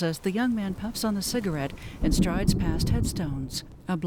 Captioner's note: thunder Continues